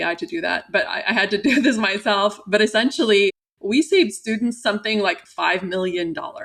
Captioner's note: laughter